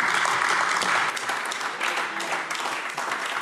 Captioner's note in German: Beifall AfD